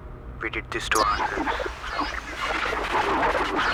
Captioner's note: tape recorder glitches